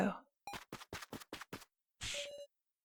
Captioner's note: running sounds